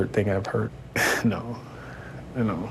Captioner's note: chuckles